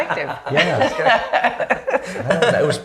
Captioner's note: laughing